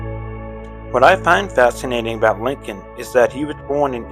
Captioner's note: voiceover